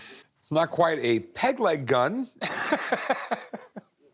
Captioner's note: laughs